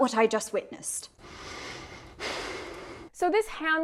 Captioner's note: very heavy breathing